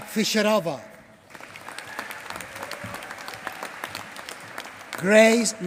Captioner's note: applause